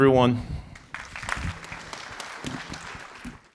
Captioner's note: applause